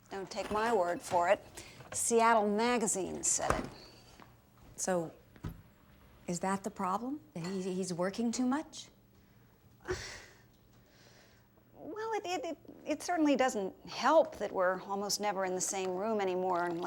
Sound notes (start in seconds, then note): 9.8 sighs